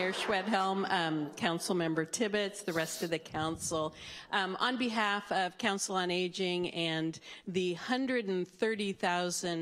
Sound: applause

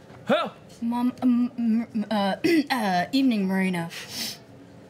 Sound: clears throat

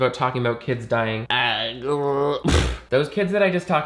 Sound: groans

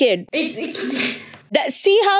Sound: laughing

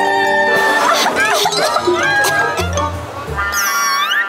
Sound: coughing

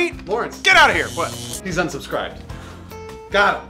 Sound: electronic buzzing

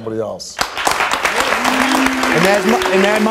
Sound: audience applauding

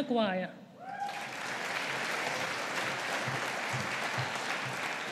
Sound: audience applauding

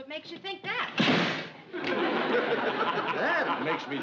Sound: slams

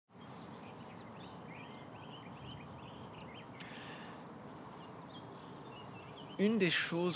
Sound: birds chirping

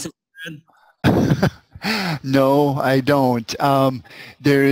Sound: laughs

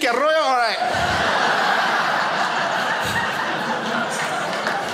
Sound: foreign language; crowd laughs

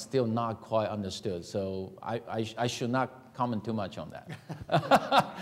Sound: laughing

